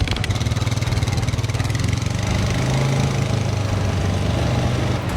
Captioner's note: engine noise fading, leaving only forest sounds